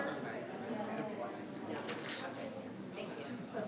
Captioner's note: people chattering